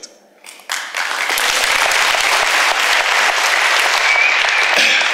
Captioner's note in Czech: potlesk